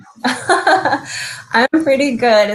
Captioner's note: chuckling